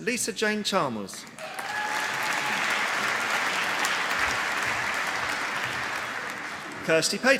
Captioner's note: applause